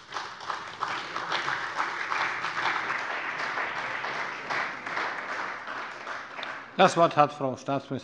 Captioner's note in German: Beifall bei der CDU und dem BÜNDNIS 90/DIE GRÜNEN